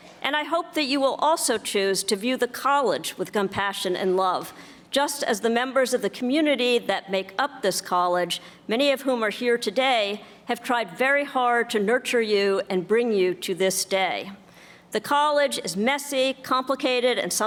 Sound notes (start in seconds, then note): none